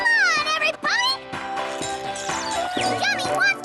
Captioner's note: tweet! Tweet!